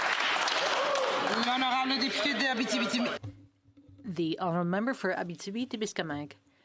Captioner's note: some Applause; speaking French